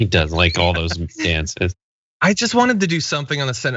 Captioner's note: laugh